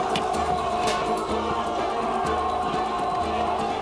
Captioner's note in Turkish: Ok sesleri